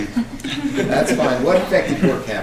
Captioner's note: laughing